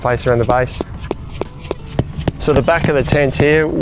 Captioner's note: hammer pounding